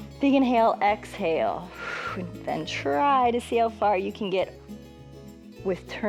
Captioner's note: inhales; exhales